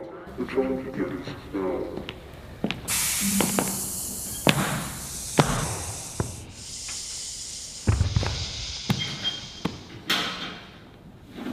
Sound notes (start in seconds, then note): 2.7 gassing sounds; 9.5 door opens